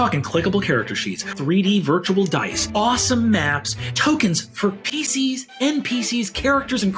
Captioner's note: none